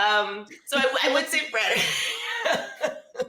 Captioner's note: laughs